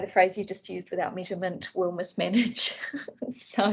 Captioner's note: laughs